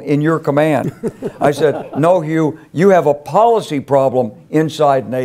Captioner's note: laugh